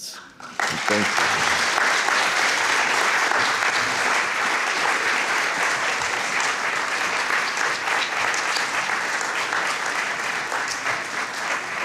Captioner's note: applause